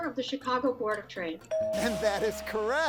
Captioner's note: tone chimes